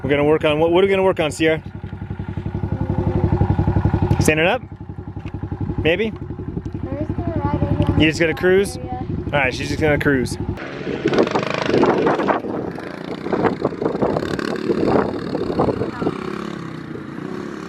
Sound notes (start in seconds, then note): 11.6 engine revving